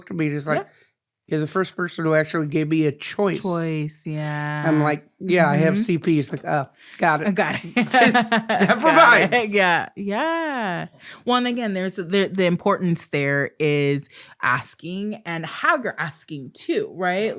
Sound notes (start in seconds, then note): 7.6 laughs